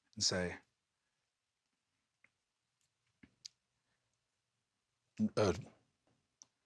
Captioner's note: an insanely long pause; pause continues